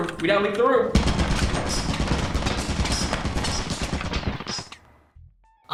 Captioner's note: turret firing